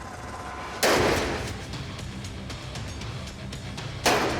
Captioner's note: clanging